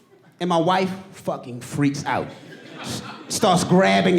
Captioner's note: audience laughing